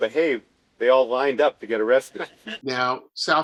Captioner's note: laughter